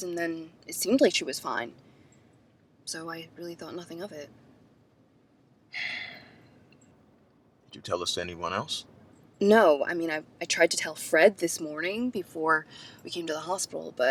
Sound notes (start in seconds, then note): 5.7 sighs